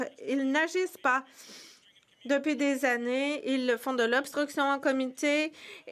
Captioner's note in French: voix de l'interprète